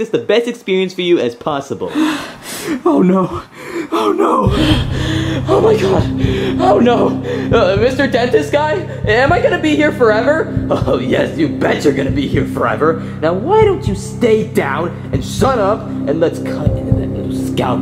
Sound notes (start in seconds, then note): 3.3 breathing intensely; 6.8 panting